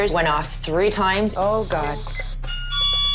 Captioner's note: something triggers alarm; alarm goes off